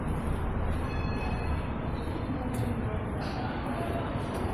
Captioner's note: traffic in distance